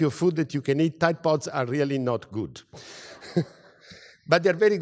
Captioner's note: laugh